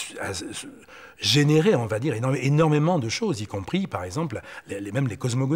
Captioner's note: French spoken audio